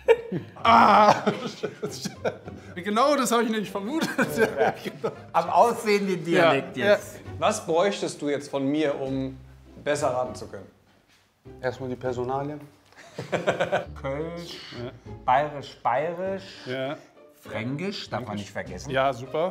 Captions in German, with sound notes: Ah! Genau, das hab ich nämlich vermutet. Am Aussehen, den Dialekt jetzt. - Ja. Was bräuchtest du jetzt von mir, um besser raten zu können? Erst mal die Personalien. (Lachen) Kölsch, bairisch, bairisch. - Ja. Fränkisch, darf man nicht vergessen. - Ja, super.